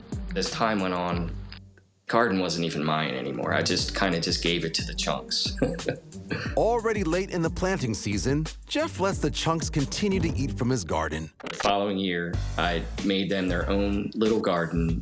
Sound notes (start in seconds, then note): 5.4 chuckles